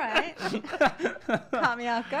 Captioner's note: laughs